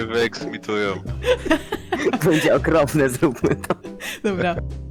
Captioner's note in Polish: śmiech